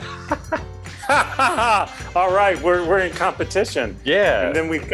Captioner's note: laughs